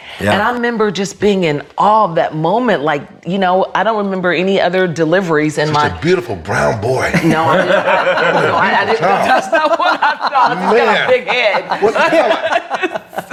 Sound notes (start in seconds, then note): 6.5 all laughing